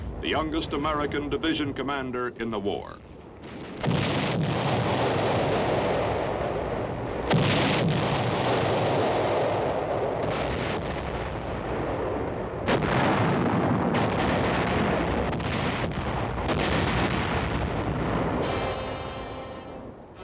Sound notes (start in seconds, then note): 3.9 explosions booming